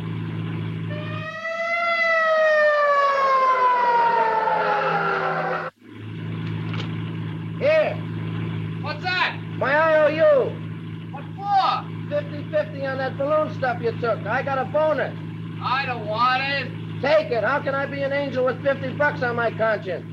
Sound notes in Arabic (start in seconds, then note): 0.5 صافرة الإنذار تدوي; 3.5 اصوات صرير الاطارات